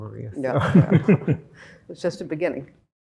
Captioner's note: laughing